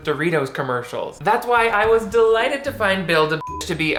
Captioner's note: beep